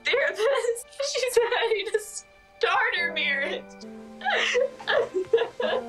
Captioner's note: crying